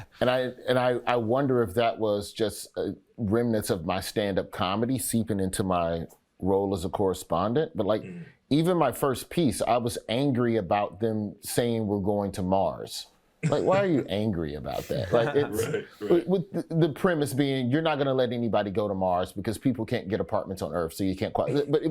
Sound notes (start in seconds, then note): 0.0 Michael laughs; 14.7 Eric laughs